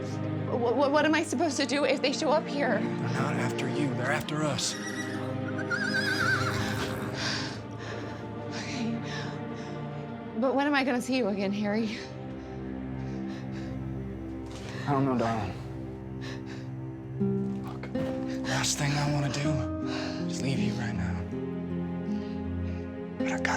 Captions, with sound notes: OKAY, OKAY BUT WHAT AM I SUPPOSED TO DO IF THEY SHOW UP HERE? THEY'RE NOT AFTER YOU, THEY'RE AFTER US. [HORSE NEIGHS OUTSIDE] [PANTING] OKAY. BUT WHEN AM I GONNA SEE YOU AGAIN, HARRY? I DON'T KNOW, DARLIN'. LOOK, THE LAST THING I WANNA DO IS LEAVE YOU RIGHT NOW...